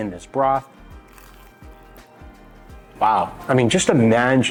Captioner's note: tempura crunching